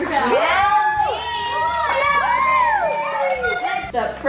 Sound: kids cheering

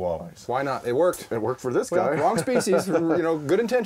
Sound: laughing

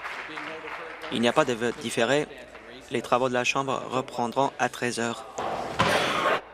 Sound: applause

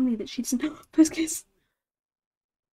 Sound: gasp

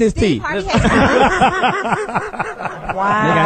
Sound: all laugh

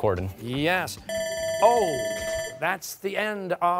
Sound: bell rings

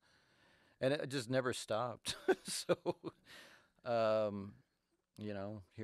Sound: chuckles

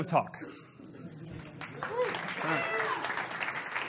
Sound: applause

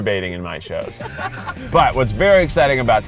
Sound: laughing

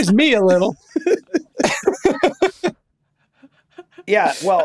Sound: all laughing

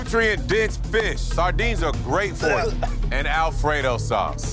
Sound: gagging

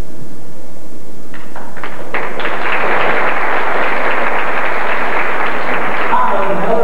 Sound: applause

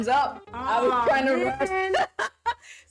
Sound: laughs

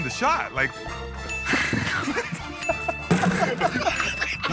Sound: laughter

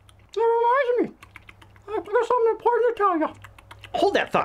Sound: chewing sounds; talking while chewing

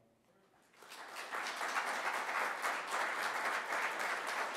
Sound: applause

